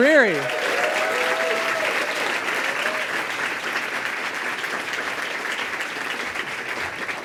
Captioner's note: applause and cheering